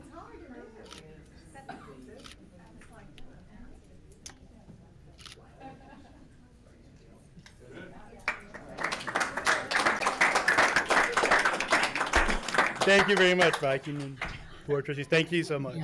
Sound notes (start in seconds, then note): 8.2 applauding